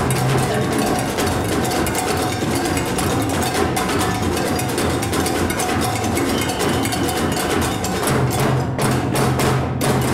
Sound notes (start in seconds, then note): 6.2 whistle blows